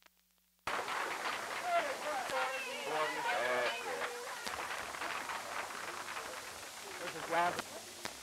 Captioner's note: applause and crowd noise